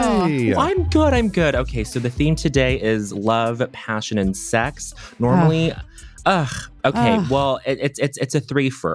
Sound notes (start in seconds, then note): 6.3 groaning; 6.9 grunting